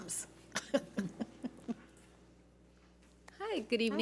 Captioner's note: laughs